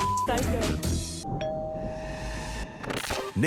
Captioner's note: doorbell rings